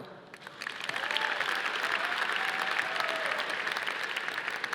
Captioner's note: audience applauding